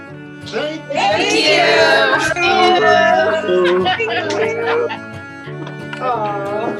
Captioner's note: laughing